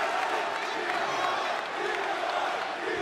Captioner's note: crowd cheering